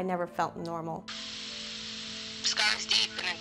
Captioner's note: static buzzing